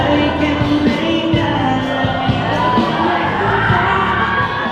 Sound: screams

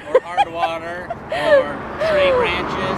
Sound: laughs

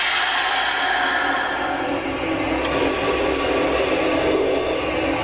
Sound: air releasing

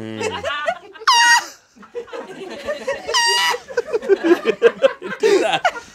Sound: squeals; audience laughs

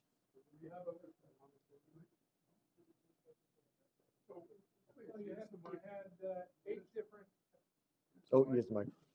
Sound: off microphone

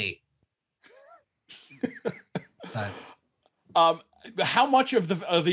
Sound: man laughing

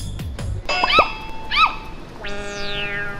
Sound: 100% endearing scream

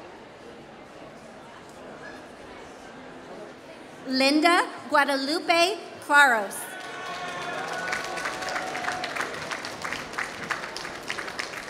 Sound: applause

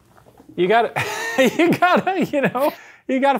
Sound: laughs

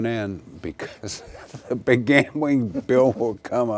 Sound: laughing

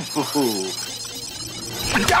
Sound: beeping

